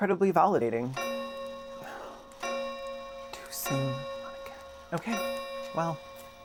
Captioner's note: grandfather clock chimes